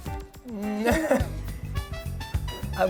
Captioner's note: laughter